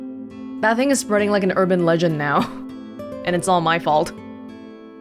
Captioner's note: chuckles